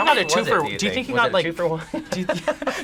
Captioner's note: laughs